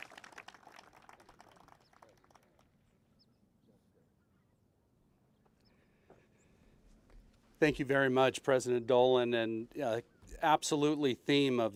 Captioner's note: applause